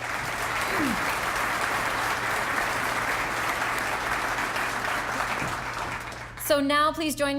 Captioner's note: applause